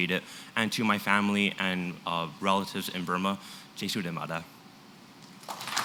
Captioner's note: burmese; applause